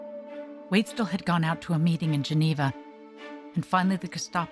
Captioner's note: voiceover